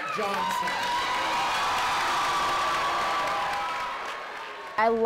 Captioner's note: crowd applauding